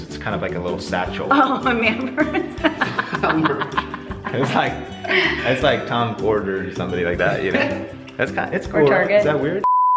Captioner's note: laugh